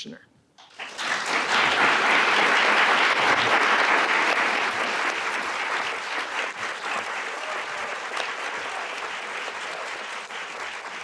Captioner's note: applause